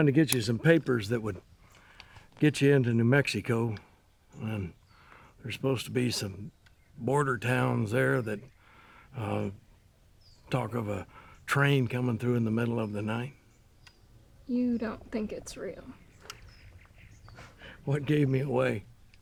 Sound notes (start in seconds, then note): none